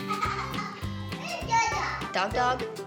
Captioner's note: giggling